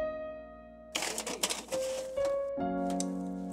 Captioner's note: cracking sound